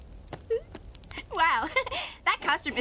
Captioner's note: giggles